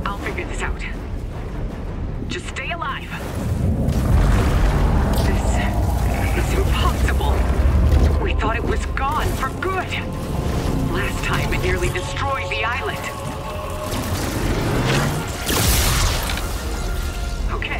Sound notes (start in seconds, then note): 4.3 loud alien noises; 13.8 electric zapping